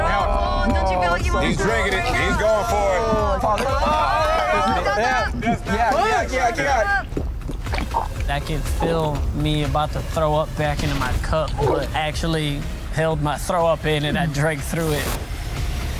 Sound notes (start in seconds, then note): 7.7 gagging